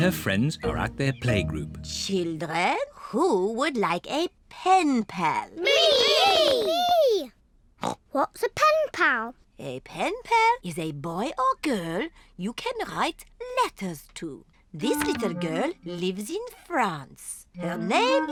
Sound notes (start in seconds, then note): 5.1 snorts